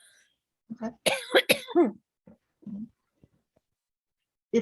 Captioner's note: coughing